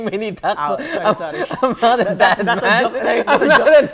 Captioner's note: laughing; laughs